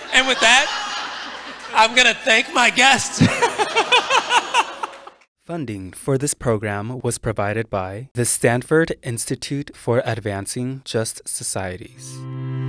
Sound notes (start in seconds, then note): 3.8 everyone laughing